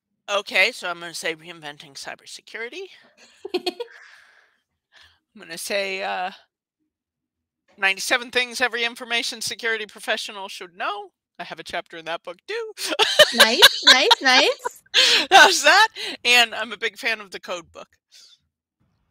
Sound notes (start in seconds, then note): 3.4 laughing; 12.9 laughs